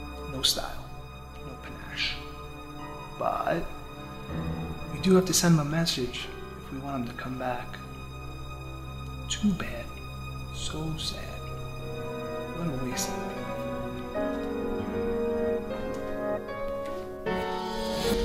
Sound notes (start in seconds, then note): none